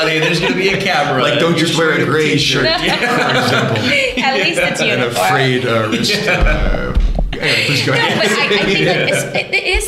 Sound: laughter

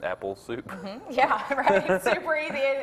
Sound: laughs

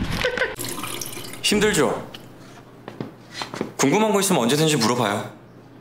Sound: speaking Korean

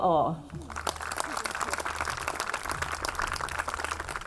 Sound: audience clapping

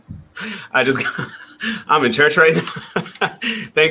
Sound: laughs

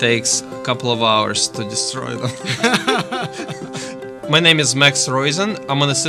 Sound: both Laugh

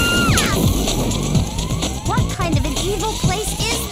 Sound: shriek

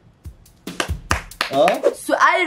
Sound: clapping

